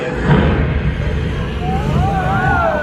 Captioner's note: flames roar; guests exclaim